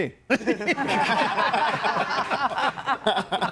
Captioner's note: group laughs